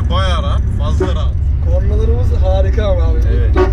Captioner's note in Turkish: korna çalar